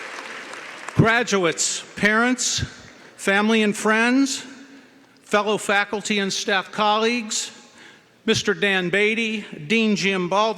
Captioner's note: cheering & Applause